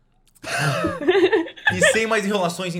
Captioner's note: laughs